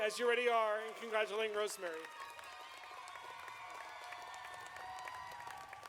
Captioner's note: audience applauding